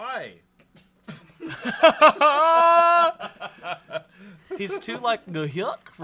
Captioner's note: everyone laughs